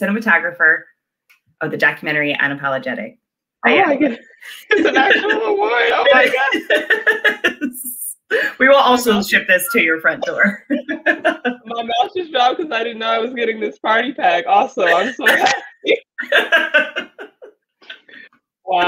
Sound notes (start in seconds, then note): 7.1 laughing; 10.7 laughs; 16.8 laughs